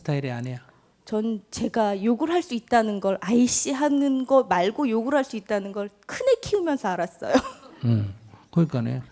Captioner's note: questioner Laughter